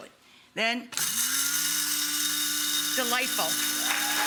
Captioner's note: mill whirring; audience applauds